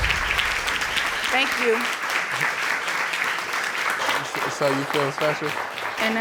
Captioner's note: audience applauding